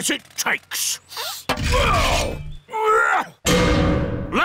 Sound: grunting

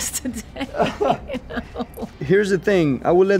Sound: laughs

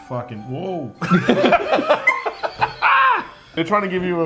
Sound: all laugh

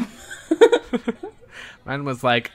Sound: laugh

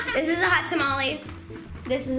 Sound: laughs

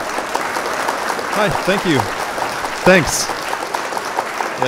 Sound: applause

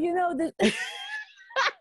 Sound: laughing

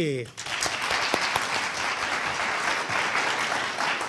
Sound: audience applauding

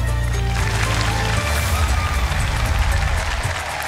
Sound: cheering, applause

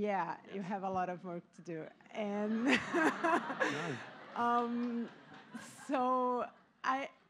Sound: laughter

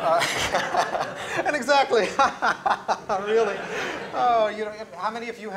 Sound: laughter; laughs

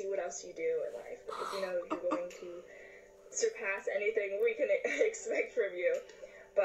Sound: chuckles

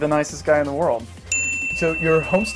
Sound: bell rings

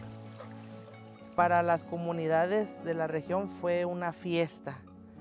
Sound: speaks Spanish

